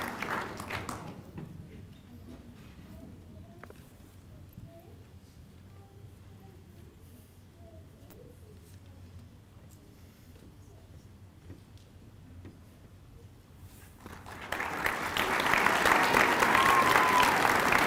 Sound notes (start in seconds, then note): 3.0 applause